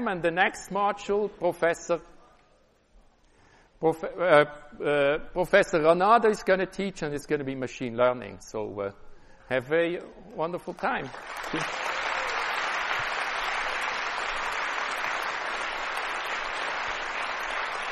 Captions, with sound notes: And the next module, Professor Ranade is going to teach. And it's going to be machine learning. So we have very wonderful time. [APPLAUSE]